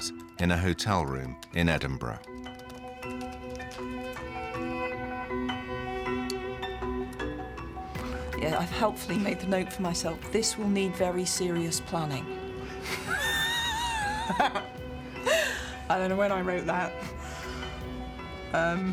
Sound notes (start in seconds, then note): 12.8 laughing